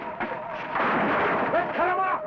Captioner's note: wood shattering